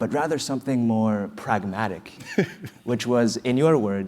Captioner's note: laugh